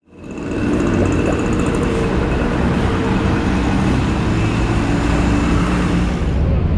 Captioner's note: The car's horn and smoke greet Havana's morning